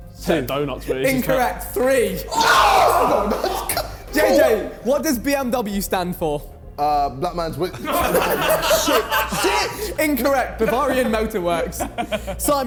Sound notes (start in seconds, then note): 2.0 men shouting; 7.7 men laughing